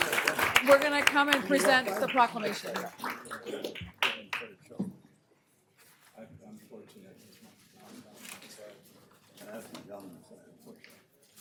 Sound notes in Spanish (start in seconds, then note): 3.9 aplausos